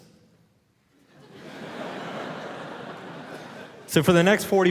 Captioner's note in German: Publikum lacht